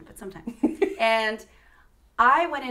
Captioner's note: laughter